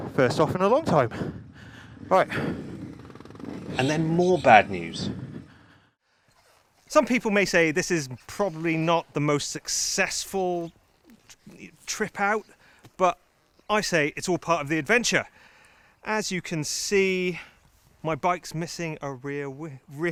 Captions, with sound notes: First off in a long time. All right. (bike engine revving) And then more bad news. Some people may say this is probably not the most successful trip out but I say it's all part of the adventure. As you can see, my bike's missing a rear wheel